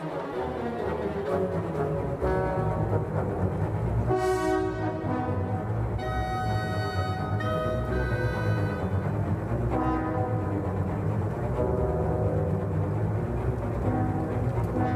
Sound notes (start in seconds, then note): none